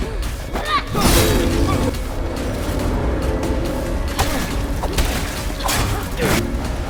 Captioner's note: dramatic music; weapons clatter